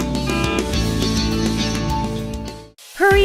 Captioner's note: truck horn